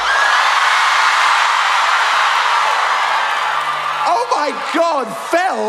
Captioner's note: shocked screaming